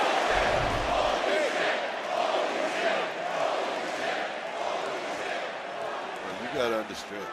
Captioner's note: crowd chants